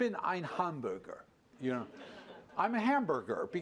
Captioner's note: laughter